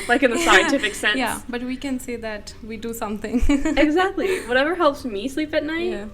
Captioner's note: laughter; laughter